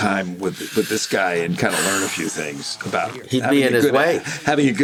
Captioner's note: sighs